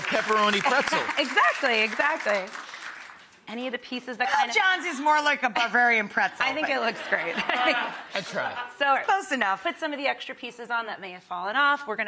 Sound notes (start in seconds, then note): 6.5 audience laughing